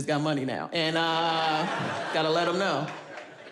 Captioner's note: audience laughs